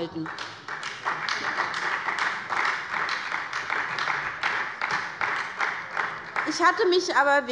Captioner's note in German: Beifall bei der SPD